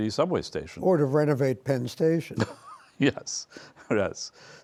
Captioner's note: laughs